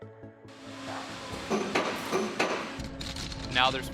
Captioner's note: machines thudding